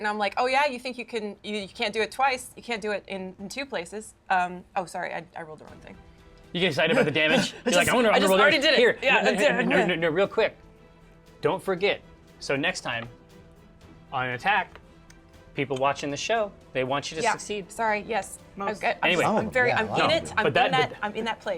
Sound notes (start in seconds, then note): 7.7 grunting